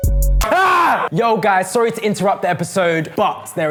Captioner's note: screams